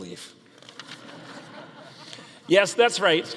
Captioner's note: audience laughing